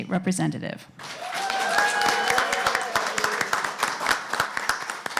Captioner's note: applause